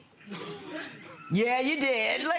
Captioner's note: audience members chuckling